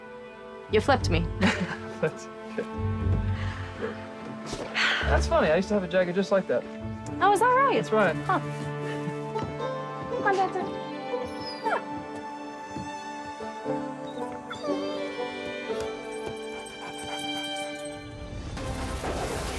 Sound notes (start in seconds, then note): 1.4 laughs; 11.2 dancer whines